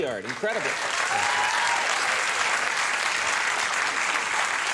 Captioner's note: crowd cheering